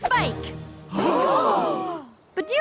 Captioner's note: group gasp